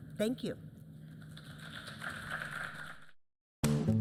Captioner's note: applause